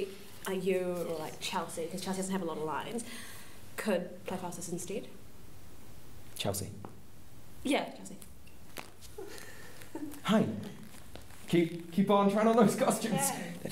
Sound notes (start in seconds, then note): 9.1 giggling